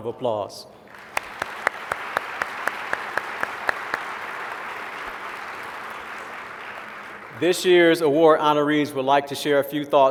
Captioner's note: applause